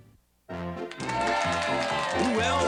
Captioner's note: audience cheers